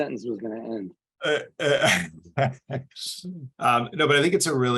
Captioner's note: laughs